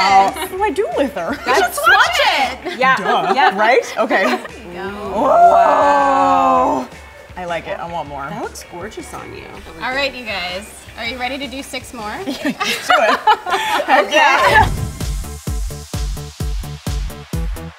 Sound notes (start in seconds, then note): 5.0 exclaims in excitement; 13.9 upbeat electronic music